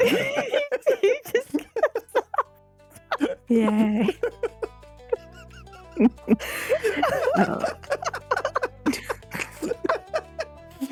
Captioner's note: laughter